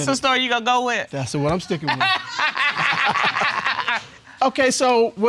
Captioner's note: both laugh